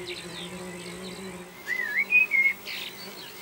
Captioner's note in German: Vogelzwitschern